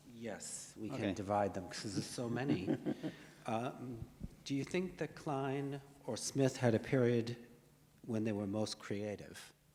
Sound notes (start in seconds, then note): 2.3 chuckles